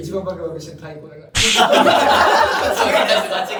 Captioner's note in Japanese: 笑い声